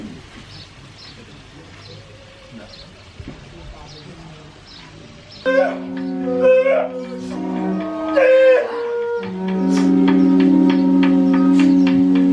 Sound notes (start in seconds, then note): 5.8 performer shouting in Maori